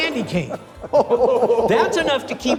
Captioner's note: laughing